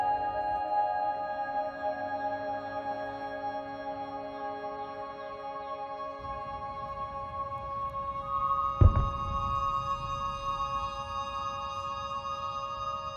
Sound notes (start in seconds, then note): 8.7 gunfire or explosion in the distance